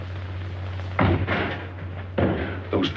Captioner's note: crashing sound